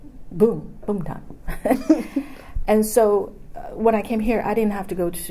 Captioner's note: all laughs